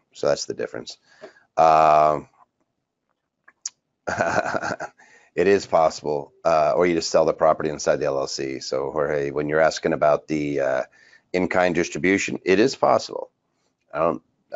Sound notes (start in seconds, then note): 4.0 laughs